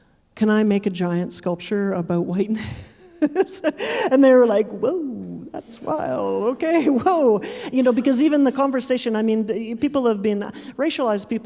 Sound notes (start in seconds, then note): 2.6 chuckling; 5.5 audience chuckling